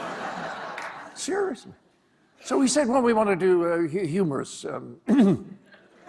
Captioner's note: clears throat